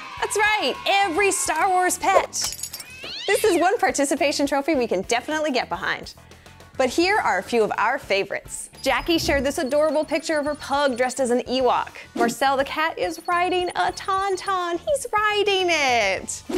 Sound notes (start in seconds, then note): 2.5 cat cry